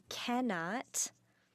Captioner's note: speaking in French